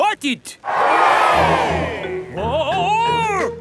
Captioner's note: crowd cheers